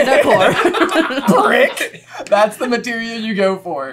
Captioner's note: laughter